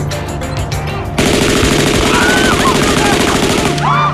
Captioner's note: automatic gunfire